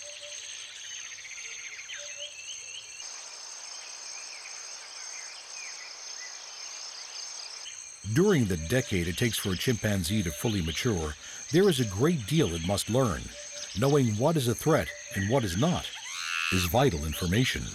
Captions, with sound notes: [BIRDS CHIRPING] During the decade it takes for a chimpanzee to fully mature, there is a great deal it must learn. Knowing what is a threat and what is not is vital information.